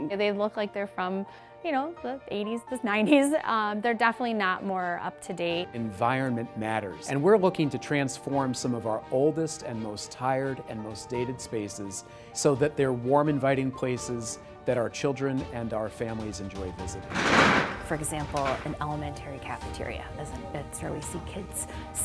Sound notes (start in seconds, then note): 17.0 table rumbles